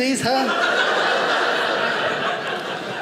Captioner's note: audience laughing